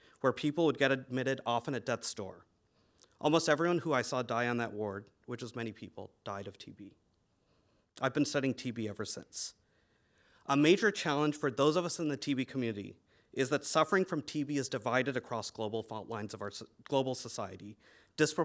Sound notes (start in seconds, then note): none